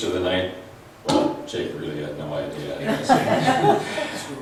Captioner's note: laughs